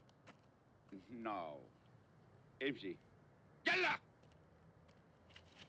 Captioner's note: speaks in turkish